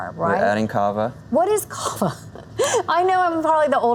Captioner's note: chuckle